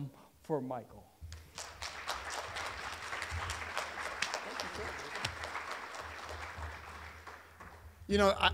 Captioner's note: applause